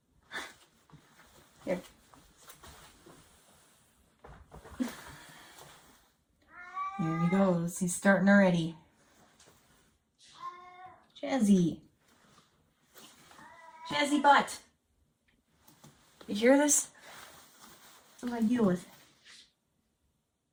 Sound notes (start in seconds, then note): 6.5 Chaz meowing; 10.2 Chaz meowing; 13.4 Chaz meowing